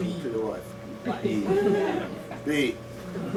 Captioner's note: laughter